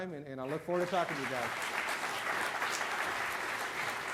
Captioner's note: loud applause